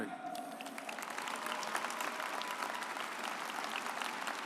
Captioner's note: audience applauds